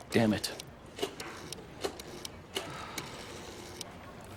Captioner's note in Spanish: Sonido al discar